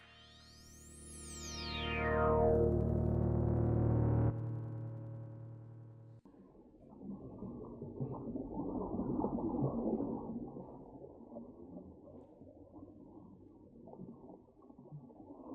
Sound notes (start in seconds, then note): 1.0 dramatic music; 7.2 water bubbling